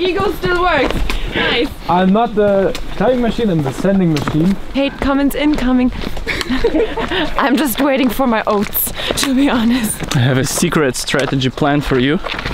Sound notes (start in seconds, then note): 6.2 laughing